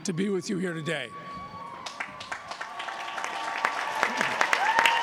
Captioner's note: cheers and applause